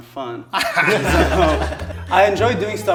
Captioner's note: all laughing